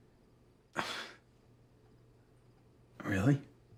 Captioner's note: Kent scoffing